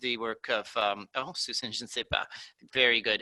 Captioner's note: speaking in foreign language